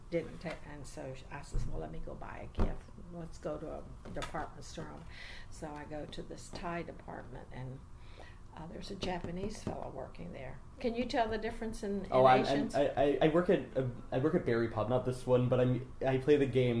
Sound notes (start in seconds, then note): 8.9 taps table urgently